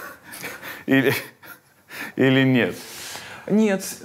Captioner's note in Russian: смеётся